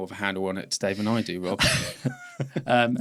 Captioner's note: both laughing